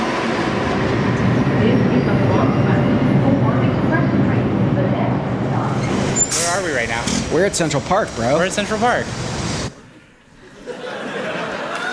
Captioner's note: cheers